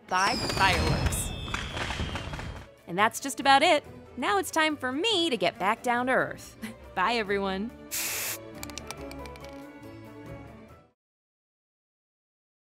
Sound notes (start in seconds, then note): 0.3 fireworks cracking; 7.9 spray can sprays and rattles